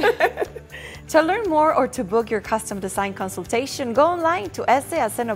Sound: laughter

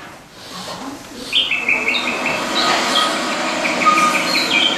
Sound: birds tweeting

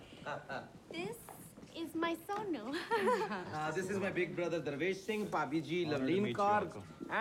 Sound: laughing

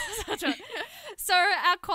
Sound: laughter

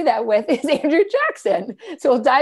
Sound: laughter

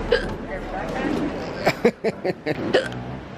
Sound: hiccups; laughs

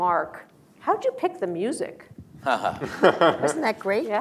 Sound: laughter

